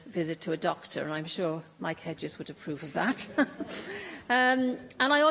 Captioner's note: laughter